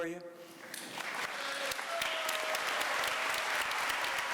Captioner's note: applause